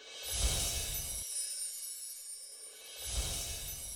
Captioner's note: twinkles